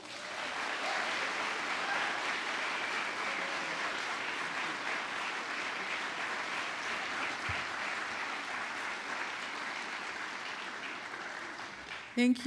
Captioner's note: applause